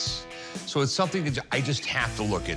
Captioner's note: none